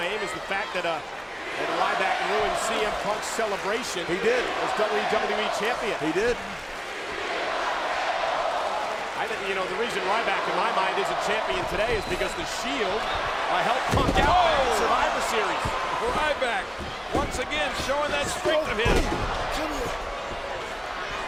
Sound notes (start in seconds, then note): 6.4 crowd chanting